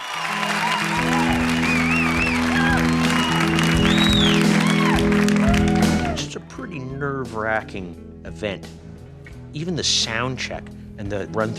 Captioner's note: cheers and Applause